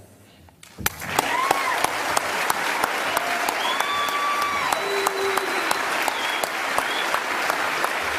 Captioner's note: lively cheers, energetic applause